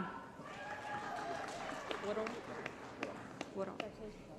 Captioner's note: applause